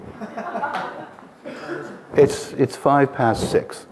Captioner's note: audience laughing